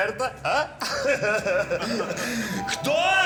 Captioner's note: laughs